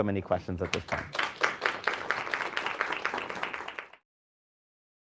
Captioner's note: applause